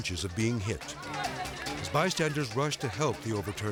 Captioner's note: people yelling